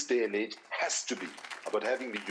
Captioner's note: audience applauding